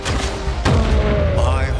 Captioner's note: scream lowers in pitch